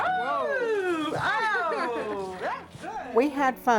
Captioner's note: cheering